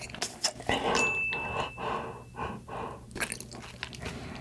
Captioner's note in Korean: 머리 속을 들려주는 소리